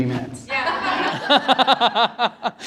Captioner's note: laughter